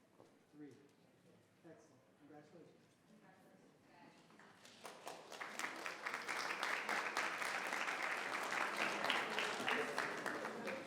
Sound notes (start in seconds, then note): 4.4 people clapping